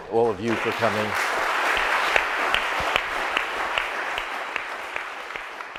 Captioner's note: audience applauds